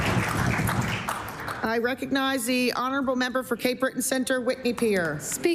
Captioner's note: applause